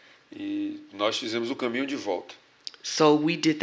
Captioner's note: speaking portuguese